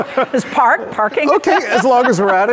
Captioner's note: all laughing; laughing